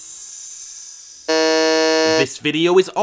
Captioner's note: buzzer